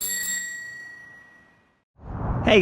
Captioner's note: bell dings